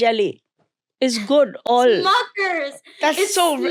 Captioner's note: chuckles